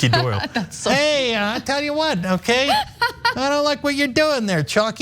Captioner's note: laugh